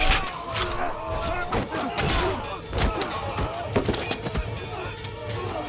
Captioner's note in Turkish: Üst üste bağrışmalar